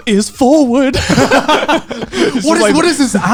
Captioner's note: laughing